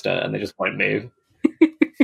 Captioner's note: laughs